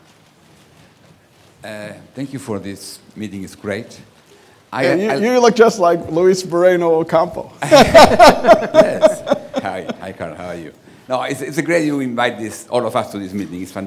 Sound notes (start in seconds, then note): 7.6 laughing